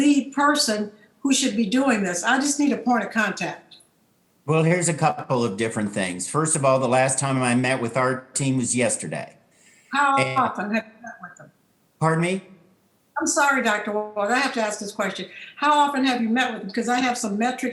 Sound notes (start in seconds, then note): 9.7 faintly speaking